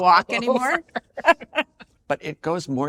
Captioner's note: both laugh